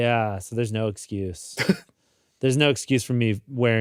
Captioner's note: chuckles